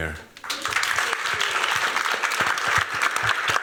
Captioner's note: applause